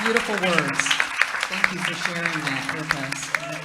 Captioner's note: applause